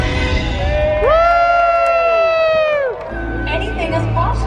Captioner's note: crowd cheering